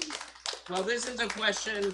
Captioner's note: applause